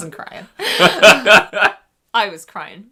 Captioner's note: they laugh